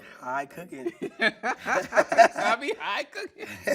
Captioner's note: laughing